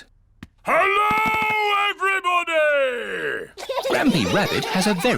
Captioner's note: shouts; laughter